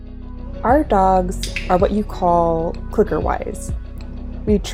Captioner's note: clicker sound